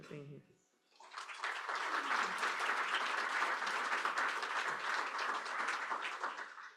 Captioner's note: applause